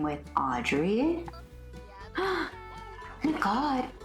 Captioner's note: sharp inhale